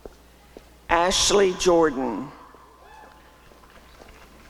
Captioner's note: applause and cheering